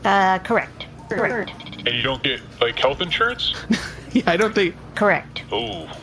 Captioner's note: laughing